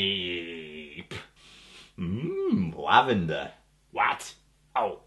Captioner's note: sniffs